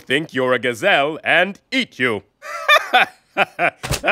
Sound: chuckles

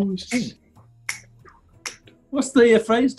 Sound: clicks fingers

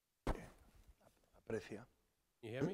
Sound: speaking spanish

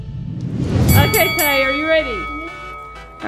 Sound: bell dings

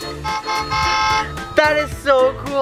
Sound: car horn

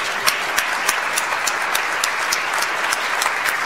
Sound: audience applauds

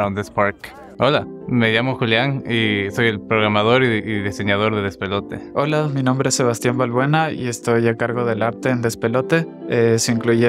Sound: spanish

